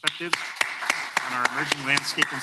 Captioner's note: applause